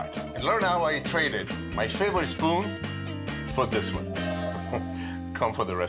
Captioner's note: laughs